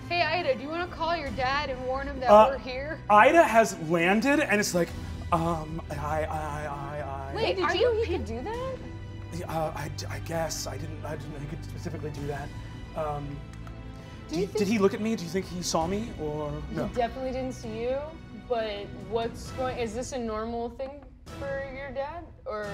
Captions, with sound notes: - Hey, Ayda, do you want to call your dad and warn him that we're here? - Ayda has landed and is like, "Um, I..." (stuttering) - Wait, are you- - I didn't know he could do that? - "I guess. I didn't know he could specifically do that." - Did he- - "Did he look at me? Do you think he saw me or?" - He definitely didn't see you, but is this a normal thing for your dad?